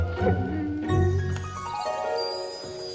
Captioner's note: dog whimpering; upbeat music